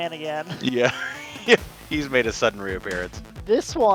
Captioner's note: laughs